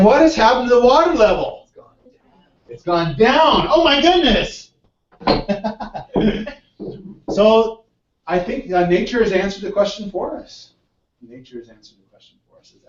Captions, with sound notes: what has happened to water level. It's gone down. My goodness [LAUGH] So I think that nature has answered the question for us. Nature has answered the question for us, it actually gone down.